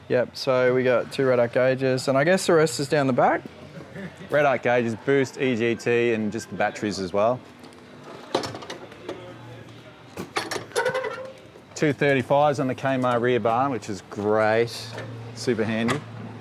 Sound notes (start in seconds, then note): 10.2 door crank creaks